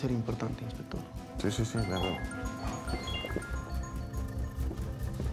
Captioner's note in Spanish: el celular sigue sonando